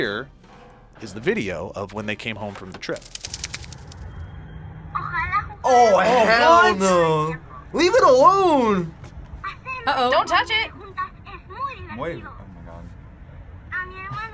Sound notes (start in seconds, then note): 5.0 speaks Spanish